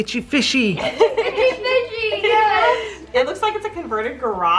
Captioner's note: laughing